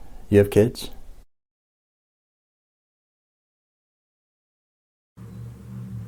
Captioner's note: silence